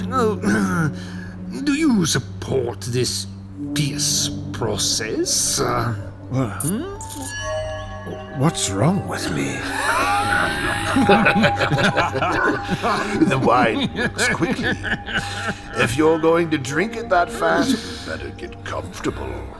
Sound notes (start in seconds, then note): 11.6 laughing; 14.3 sounds of coughing and laughing from across room